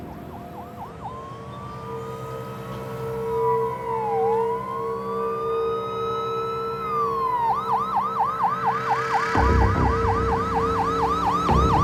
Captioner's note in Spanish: Sirenas de patrullas